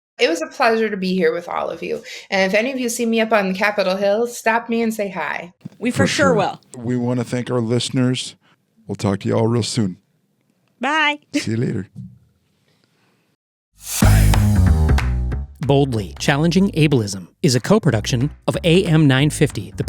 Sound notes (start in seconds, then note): 11.3 laughing; 13.8 bright upbeat music; 15.0 hands clapping